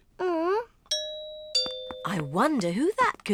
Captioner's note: groans; doorbell